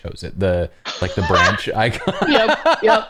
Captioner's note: laughter